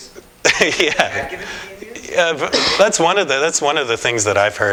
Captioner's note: laughter